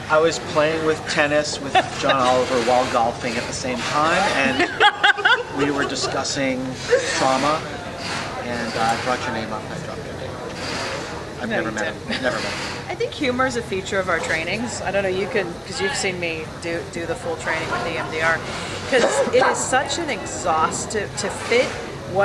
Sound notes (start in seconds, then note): 3.8 laughing